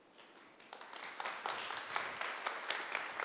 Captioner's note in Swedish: Applause